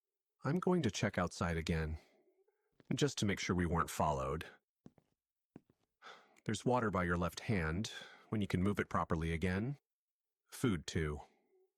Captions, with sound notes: I'm going to check outside again...just to make sure we weren't followed. (footsteps walking away) There's water by your left hand...when you can move it properly again. Food too.